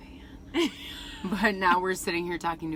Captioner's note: laughing